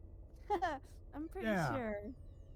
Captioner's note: laughs